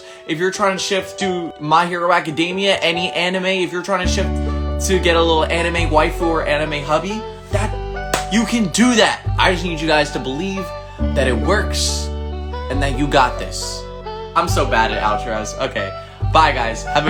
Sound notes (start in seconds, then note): 8.1 claps